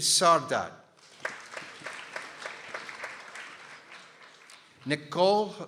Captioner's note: people applauding